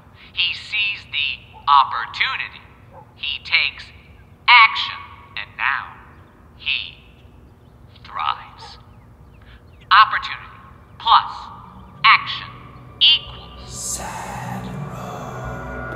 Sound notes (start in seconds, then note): 13.8 voiceover